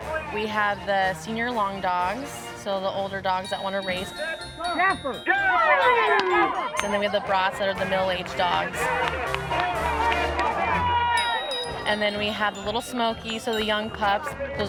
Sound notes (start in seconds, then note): 9.5 crowd cheering